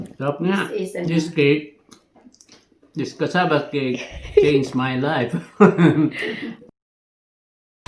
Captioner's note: laughing